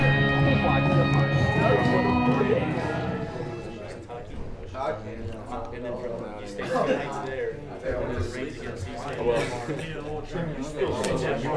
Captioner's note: chatter